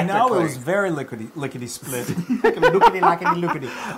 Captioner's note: laugh